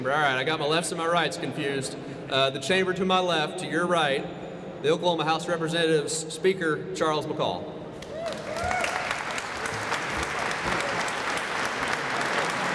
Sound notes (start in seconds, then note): 8.0 applause